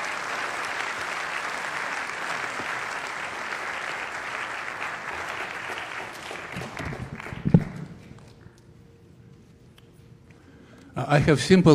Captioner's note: applause